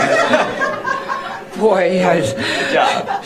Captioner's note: laughter